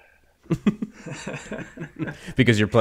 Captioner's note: all laughing